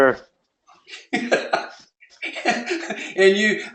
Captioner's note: laugh